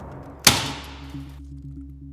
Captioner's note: sound of staple gun triggering